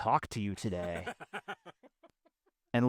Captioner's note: laughing